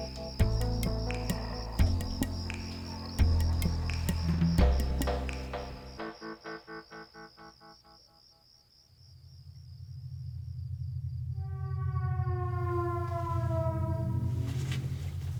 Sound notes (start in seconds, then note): 8.9 cricket chirps; 10.6 eerie noise plays